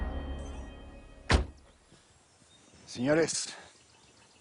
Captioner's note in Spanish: Portazo